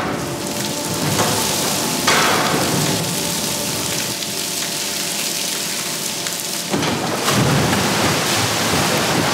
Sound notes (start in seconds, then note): 0.2 heavy splashing